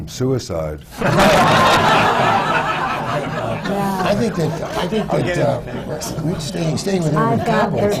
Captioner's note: laughter